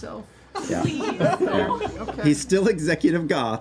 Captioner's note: laughter